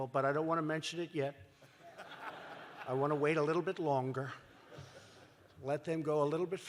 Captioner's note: laughter